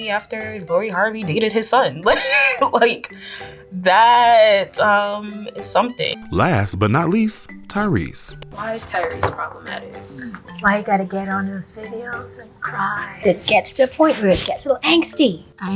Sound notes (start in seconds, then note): 2.0 laughing